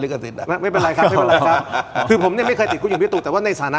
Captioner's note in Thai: เสียงหัวเราะ